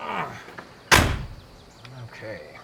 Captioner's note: grunting; door closes